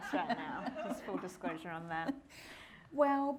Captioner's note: all laughing